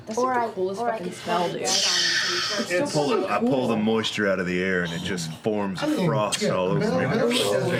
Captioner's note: hissing sound